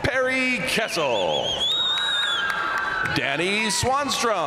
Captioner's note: crowd cheering; crowd applauding